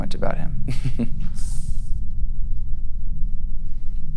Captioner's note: laughs